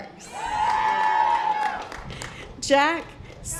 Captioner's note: audience applause